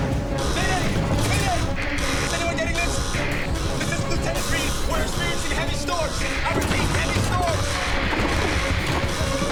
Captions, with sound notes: - Mayday, Mayday! - (Klaxon blaring) Is anyone getting this? This is Lieutenant Read. We're experiencing heavy storms. - I repeat, heavy storms. - (static hissing)